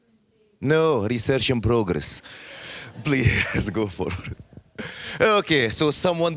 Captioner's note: laughing